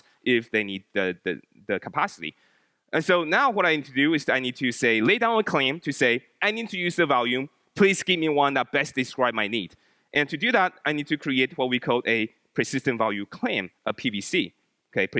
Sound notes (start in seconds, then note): none